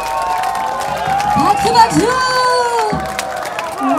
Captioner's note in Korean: 박수박수~